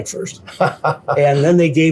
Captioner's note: laughing